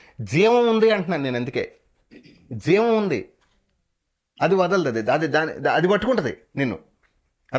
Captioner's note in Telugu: గొంతు సవరించుకోవడం